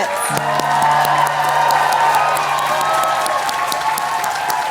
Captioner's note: applause